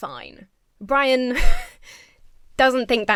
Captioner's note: chuckles